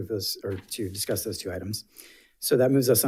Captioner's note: paper rustling